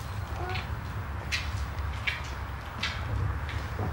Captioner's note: thunder rumbling